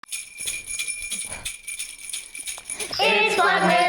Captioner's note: bell jingles